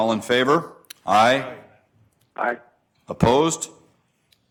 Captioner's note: multiple voices